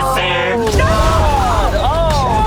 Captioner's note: explosions boom